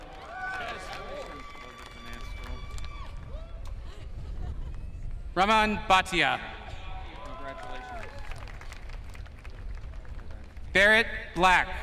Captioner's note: applause